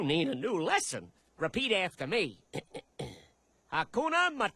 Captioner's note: clears throat